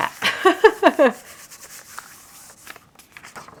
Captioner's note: chuckling